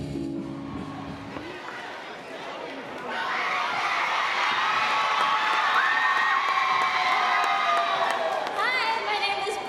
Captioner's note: cheers and applause